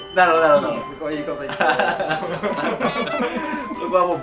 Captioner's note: laugh